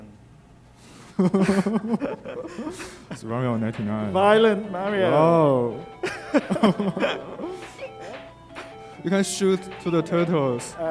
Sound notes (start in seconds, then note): 1.1 laughing; 6.0 laughing